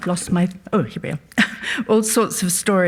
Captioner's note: laughs